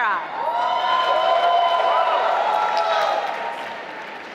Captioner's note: applause